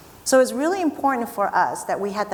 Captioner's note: none